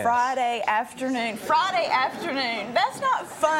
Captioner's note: audience laughing